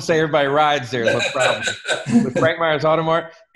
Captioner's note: laughs